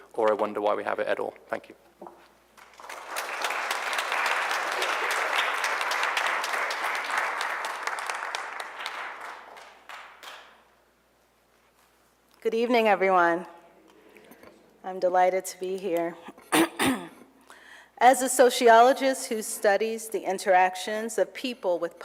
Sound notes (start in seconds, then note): 2.5 applause